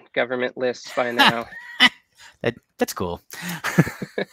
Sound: laughing

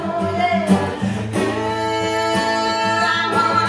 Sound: building vocalizations

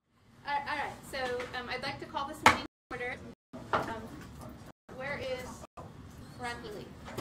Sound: gavel

